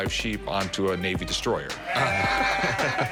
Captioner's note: laughs